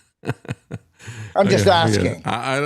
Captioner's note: laughing